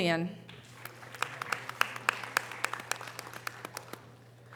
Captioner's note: audience applause